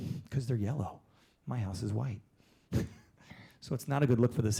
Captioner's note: laughing